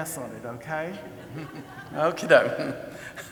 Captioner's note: audience laughing